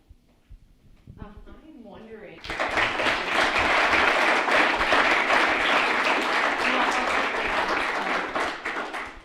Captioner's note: applause